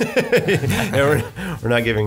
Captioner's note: laughs